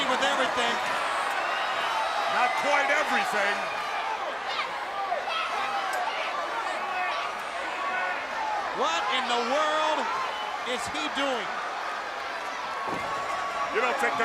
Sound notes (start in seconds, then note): 3.5 crowd cheering